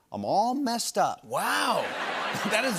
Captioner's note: laughter